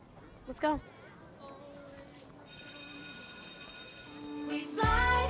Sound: school bell rings

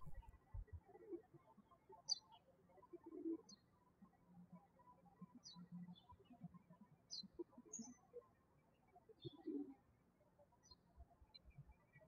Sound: birds chirping

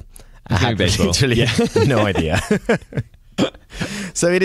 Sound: laughter

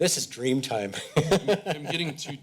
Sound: laughs

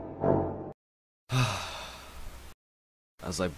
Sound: sigh

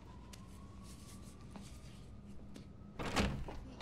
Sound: siren wails in distance

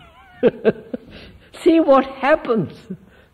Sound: laughs

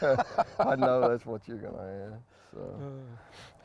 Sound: both laugh

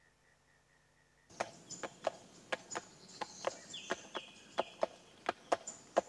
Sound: horse hooves clopping

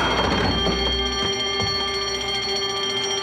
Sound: alarm bell

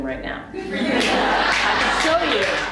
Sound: audience laughs

